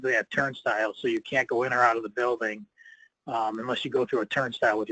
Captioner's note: none